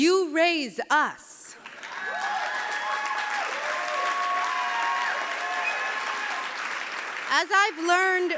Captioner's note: clapping